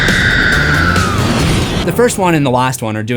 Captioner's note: screams